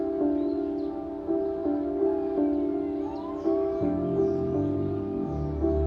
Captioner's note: birds Chirping; sirens